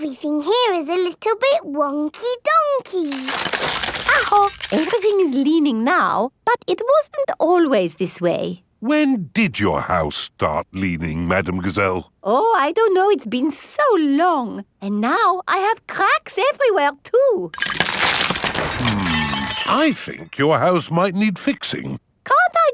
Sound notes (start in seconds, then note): 3.0 house creaking; 17.5 cracking